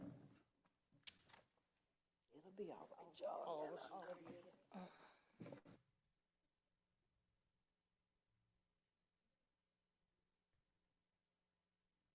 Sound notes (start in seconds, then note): 5.1 chattering